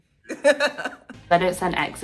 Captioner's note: laughing